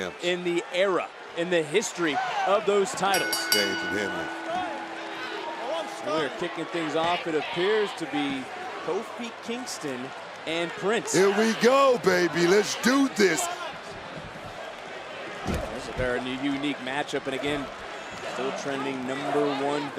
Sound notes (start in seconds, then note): 3.1 bell rings